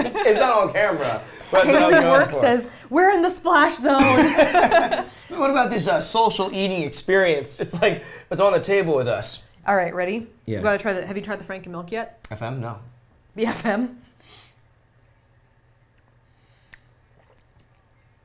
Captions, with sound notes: It's on camera. - Hayden Work says, "We're in the splash zone!" (all laughing) - What about this social eating experience. It's like they're on the table with us. - All right. Ready? - Yeah. - Have you tried the Franken milk yet? - FM? No. - The FM?